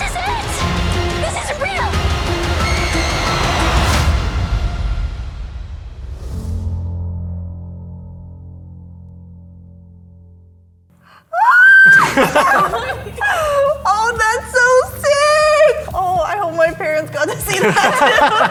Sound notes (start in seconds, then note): 3.3 music intensifies; 11.3 shrieking; 17.4 everybody laughing